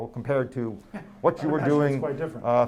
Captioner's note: laughs